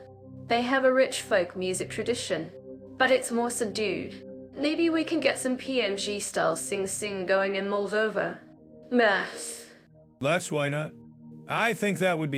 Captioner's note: laughs